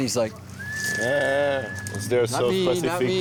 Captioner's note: whistles